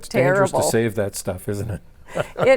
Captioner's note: laughs